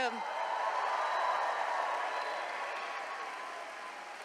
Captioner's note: attendees cheering